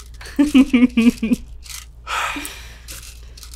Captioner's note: laughs